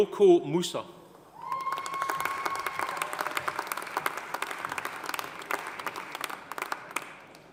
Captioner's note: audience cheering; audience applauding